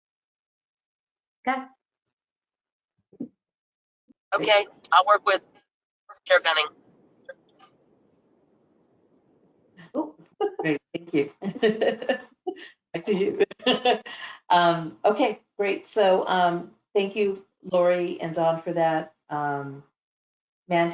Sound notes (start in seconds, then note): 11.4 laughter